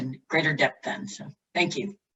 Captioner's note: silence